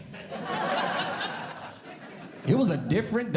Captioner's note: audience Laughing